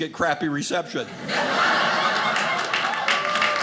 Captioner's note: audience laughing; audience clapping